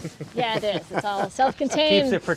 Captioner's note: laughing